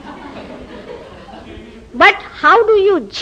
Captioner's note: laughter